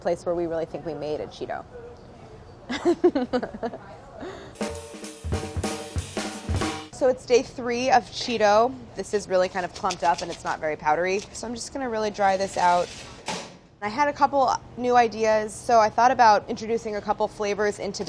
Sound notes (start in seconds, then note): 2.6 laughter; 4.5 percussion music